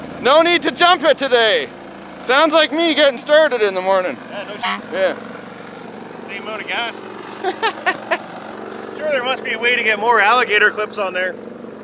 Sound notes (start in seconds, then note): 4.3 horn honks; 7.2 laughs